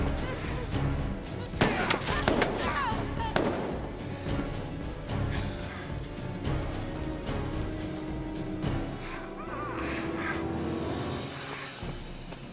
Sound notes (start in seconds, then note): 1.6 gunshot; 2.7 grunting